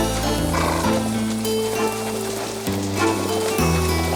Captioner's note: horse snorts